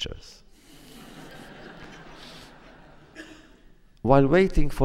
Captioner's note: laughter